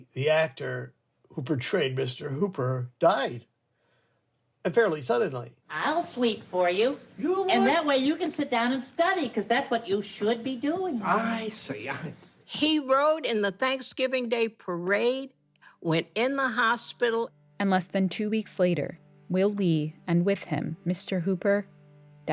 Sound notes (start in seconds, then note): 5.1 soundbite of tv show, "sesame street"